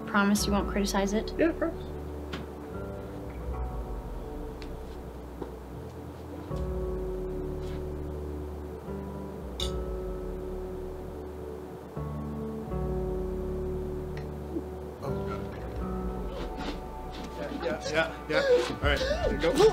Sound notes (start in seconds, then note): 9.6 glasses clink